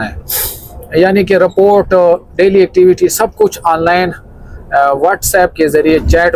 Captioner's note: nasal sound